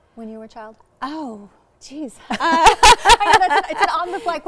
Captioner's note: both laughing